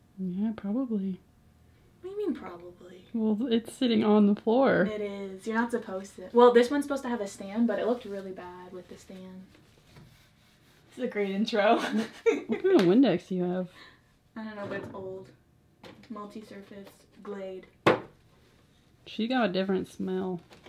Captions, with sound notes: Yeah, probably. - What do you mean, probably? - Well, it's sitting on the floor. It is. You're not supposed to... Well, this one's supposed to have a stand but it looked really bad with the stand. This is a great intro. [LAUGHS] What kind of Windex do you have? I don't know but it's old. It's Multi-surface, Glade. She's got a different smell.